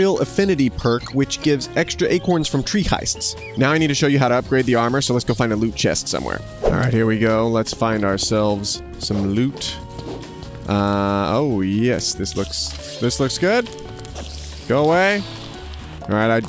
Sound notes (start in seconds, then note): 0.0 birds chirping; 6.5 whooshing sound